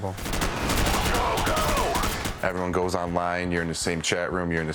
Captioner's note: gunfire